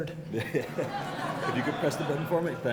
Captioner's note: audience laughs